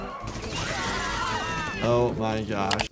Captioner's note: gunshots blasting; family screaming